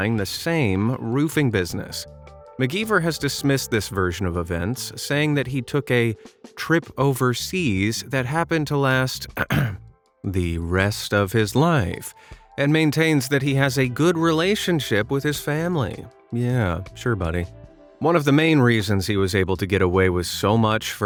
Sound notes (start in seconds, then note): 9.3 ahem